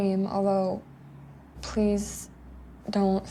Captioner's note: none